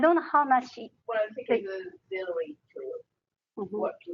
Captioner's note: talking